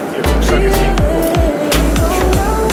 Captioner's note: German